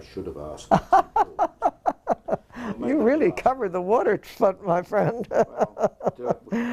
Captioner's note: laugh